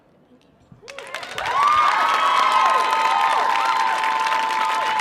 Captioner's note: audience applauding